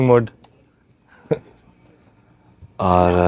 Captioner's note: laughing